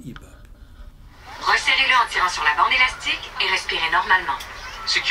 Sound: female voice instructing in French

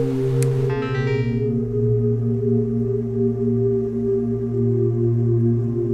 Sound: computer chiming; brooding music

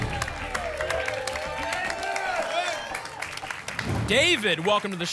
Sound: applause and cheering

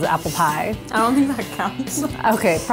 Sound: laughs

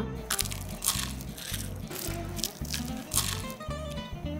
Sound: pastry crunches

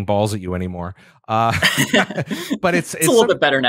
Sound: laughter

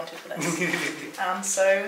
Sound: laughing

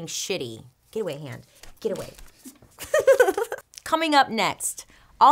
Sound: laughs

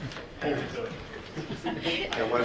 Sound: group laughing; faintly speaking

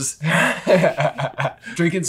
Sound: laughs

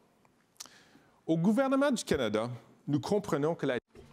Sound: speaking in French

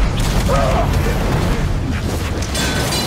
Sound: grunts

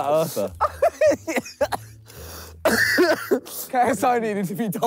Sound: laughs

